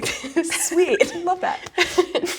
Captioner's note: laughs